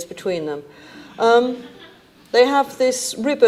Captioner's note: audience laughing